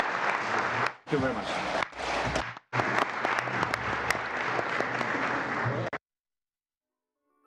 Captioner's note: applause